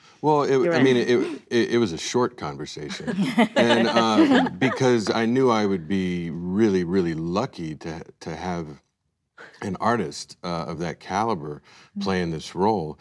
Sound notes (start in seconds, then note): 2.8 laughs